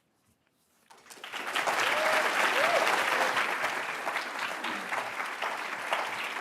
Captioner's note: attendees cheering and applauding